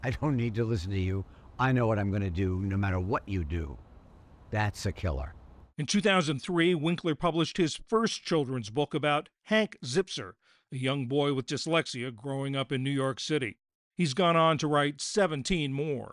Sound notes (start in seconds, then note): 6.1 voice-over